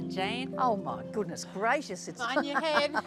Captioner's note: laughs